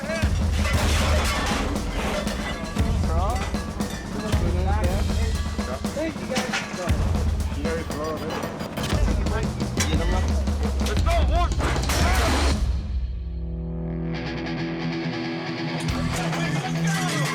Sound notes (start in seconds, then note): 3.3 people chattering; 7.9 upbeat music